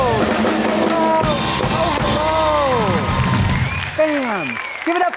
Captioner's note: audience cheering